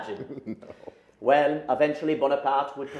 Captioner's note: laughs